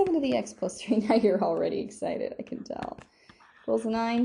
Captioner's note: laughing